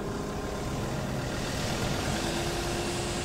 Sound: engine noise

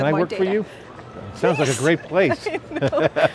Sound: laughs

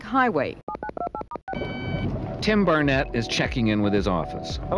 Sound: electronic beeps

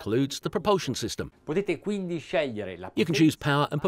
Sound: speaking in Italian

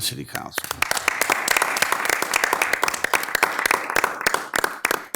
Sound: audience clapping

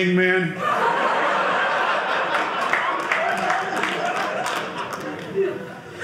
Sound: audience laughing

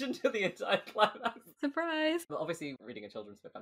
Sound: laughing

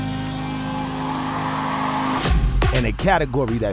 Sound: cheering

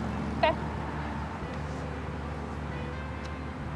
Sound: none

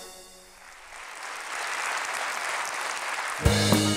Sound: applause

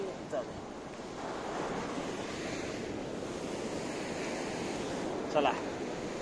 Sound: sea waves sound

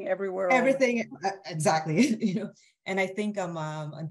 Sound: laughs

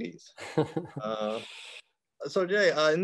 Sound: laughing

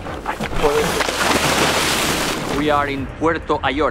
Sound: water splashing

